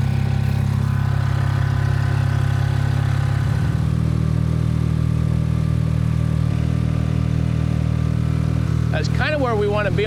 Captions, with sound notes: (engine rumbles) That's kinda where we wanna be,